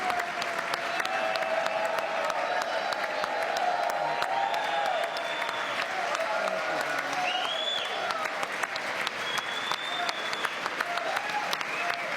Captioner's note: cheering; chanting usa